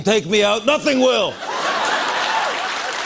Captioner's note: laughter and applause